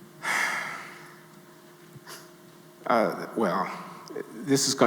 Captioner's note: Glenn sighing